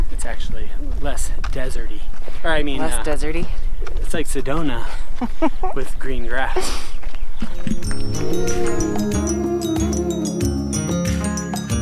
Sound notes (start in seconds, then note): 5.2 laughs; 7.6 peaceful folk-inspired music